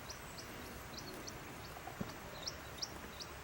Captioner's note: birds singing